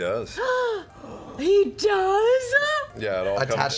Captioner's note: gasps